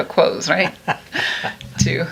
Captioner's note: laughs